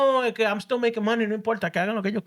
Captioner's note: speaking Spanish